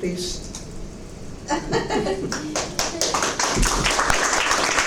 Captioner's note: applause